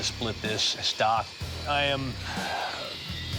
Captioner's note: sighs